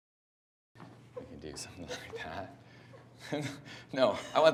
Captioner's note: laughs